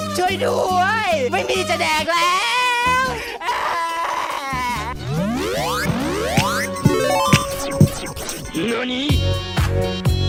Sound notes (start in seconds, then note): 3.2 crying